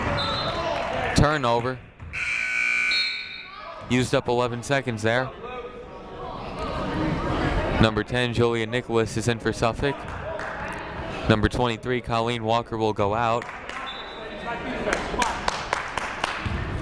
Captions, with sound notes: (whistle blows) Turnover. (buzzer blares) Used up 11 seconds there. Number 10 Julia Nicholas is in for Suffolk. Number 23 Colleen Walker will go out. (whistle blows)